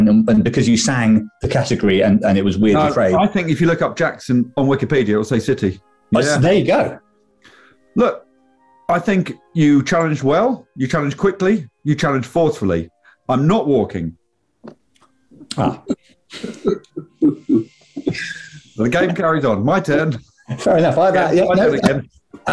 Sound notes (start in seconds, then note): 16.3 giggling